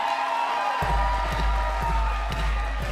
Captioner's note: crowd cheering